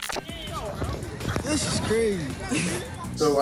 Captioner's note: laughs